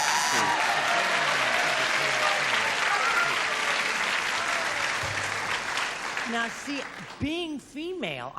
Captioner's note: applause